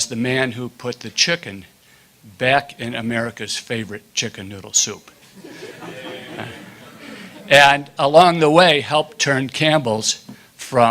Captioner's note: laughter